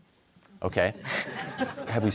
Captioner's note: laughter